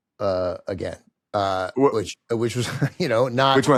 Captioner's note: chuckles